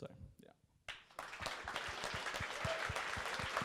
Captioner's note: applause